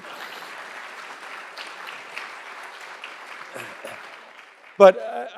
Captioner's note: applause